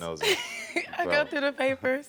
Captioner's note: laughs